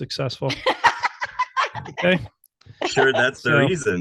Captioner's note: laughs